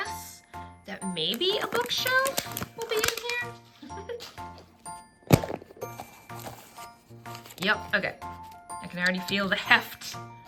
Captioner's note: laughs